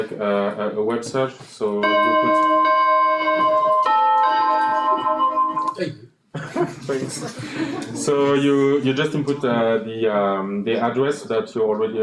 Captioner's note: ringing